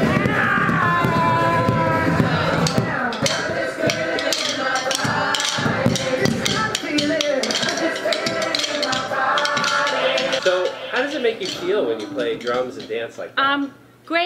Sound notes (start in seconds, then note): 0.0 exuberant yelling; 3.2 upbeat music; 3.8 drumsticks clapping